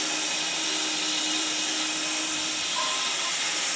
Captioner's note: saw whirring